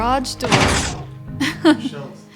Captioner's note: laughs